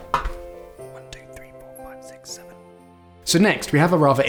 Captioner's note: quickly counts to seven